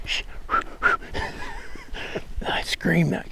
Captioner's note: laughing